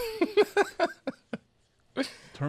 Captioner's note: laughs